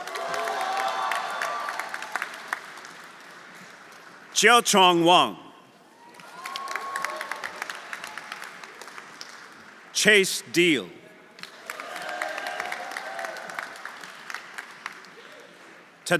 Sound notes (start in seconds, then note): 0.0 audience cheering; 0.0 audience applauding; 6.1 audience cheering; 6.1 audience applauding; 11.4 audience applauding; 11.6 audience cheering